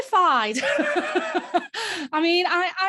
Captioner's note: laughing